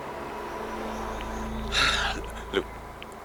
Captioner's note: sighs